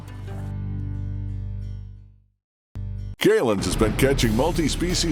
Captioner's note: voiceover